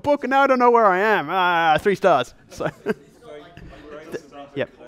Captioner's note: laughs